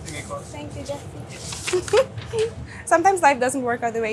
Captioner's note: laughing